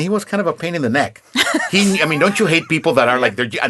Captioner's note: laughing